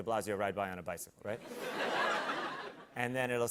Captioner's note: laughter